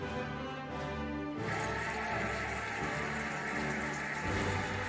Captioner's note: cheering and applauding